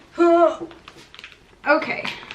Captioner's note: grunts